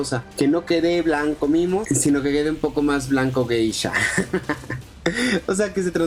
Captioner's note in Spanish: risa